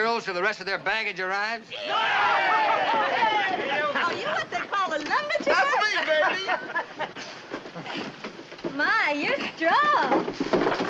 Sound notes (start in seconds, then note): 1.7 cheering; 3.8 cheering, laughing